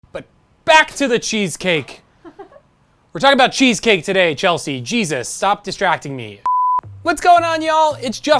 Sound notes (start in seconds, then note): 2.2 laughing; 6.4 beep